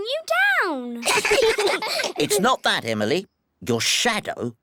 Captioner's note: all giggle